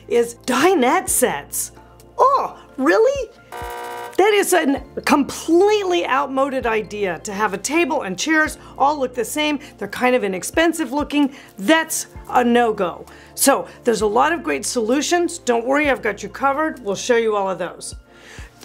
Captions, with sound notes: is dinette sets. Oh, really? (buzz beeping) That is a completely outmoded idea to have a table and chairs all look the same, they're kind of inexpensive looking, that's a no-go. So there's a lot of great solutions, don't worry, I've got you covered we'll show you all of those.